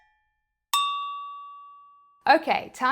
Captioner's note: cowbell tolls rhythmically; bell dings